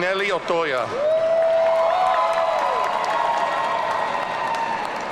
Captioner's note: audience cheering